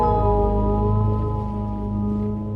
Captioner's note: none